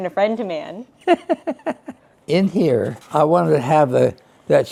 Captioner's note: laughs